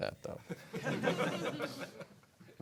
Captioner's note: laughter